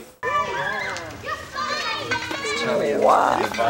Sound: children shout

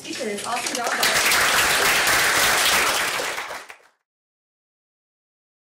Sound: applause

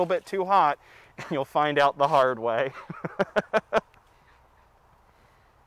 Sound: chuckling

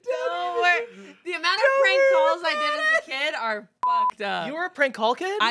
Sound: beep

